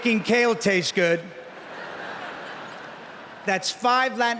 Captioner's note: laughter